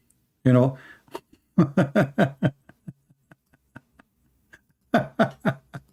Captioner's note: Ketawa